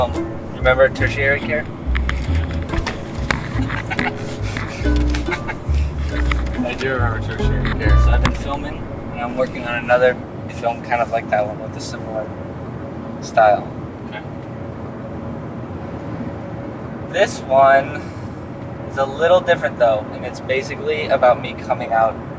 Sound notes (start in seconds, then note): 3.5 laughing